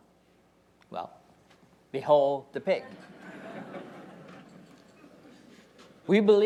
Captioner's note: audience laughing